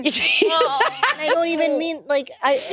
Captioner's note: participants laughing